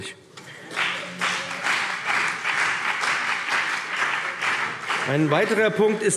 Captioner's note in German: Beifall BÜNDNIS 90/DIE GRÜNEN und vereinzelt CDU